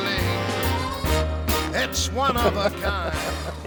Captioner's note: laughing